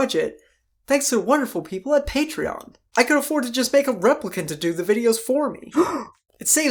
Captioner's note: gasp